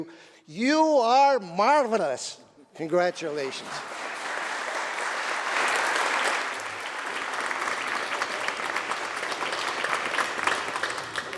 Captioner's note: applause